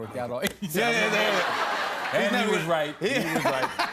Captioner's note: laughter